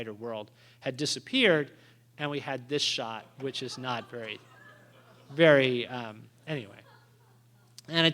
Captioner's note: laughter